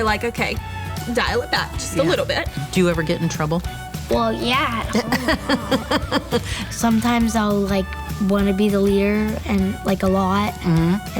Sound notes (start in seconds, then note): 4.8 laughing